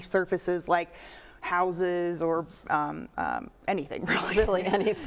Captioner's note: chuckles